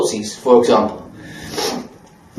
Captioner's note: sniffle